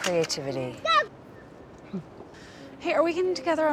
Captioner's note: child shouts